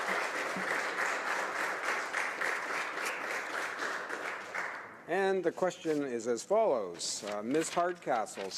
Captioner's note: applause